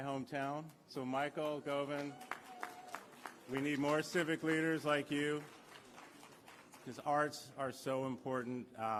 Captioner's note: applause